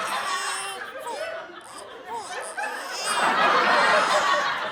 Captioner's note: baby cries; audience laughs